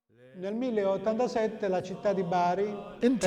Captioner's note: man speaking italian